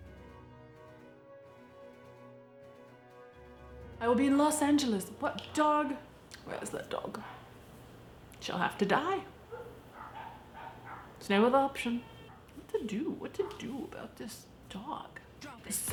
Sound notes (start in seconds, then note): 9.3 dog barking